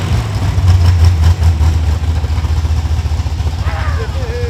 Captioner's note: engine revving